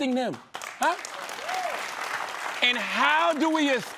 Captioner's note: applause